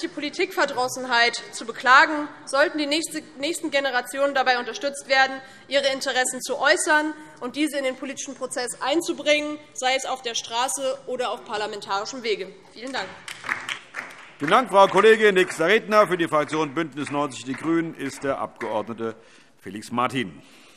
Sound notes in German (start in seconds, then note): 12.9 Beifall DIE LINKE